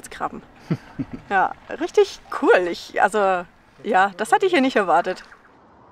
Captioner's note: laughs